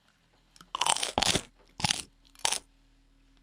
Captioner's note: crunching